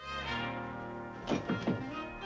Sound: knocks on door

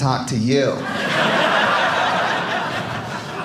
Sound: audience laughing

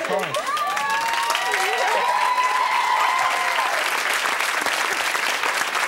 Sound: cheering and applause

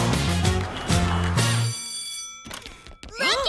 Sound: bell ringing

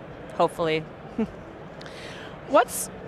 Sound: giggles

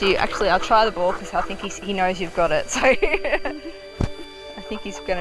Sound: laughs

